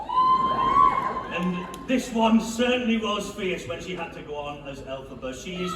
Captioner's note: hollering